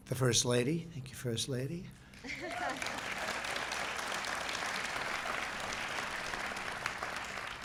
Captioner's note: applause